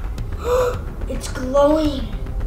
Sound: gasping

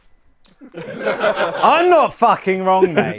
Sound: people laughing

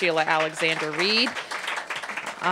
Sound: applause

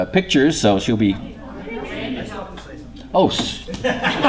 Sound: laughter

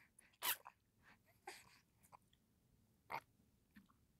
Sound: baby sucking

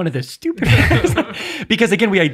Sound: fathers laugh

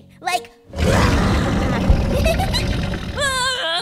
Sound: laughs

